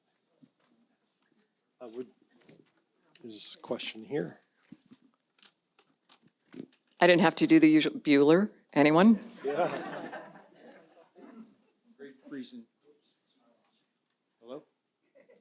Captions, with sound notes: I would, there's a question here. I didn't have to do the usual, "Bueller? Anyone?" Yeah. (audience laughs) Great present- Oops. Hello?